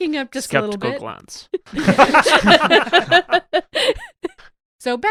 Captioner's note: laughter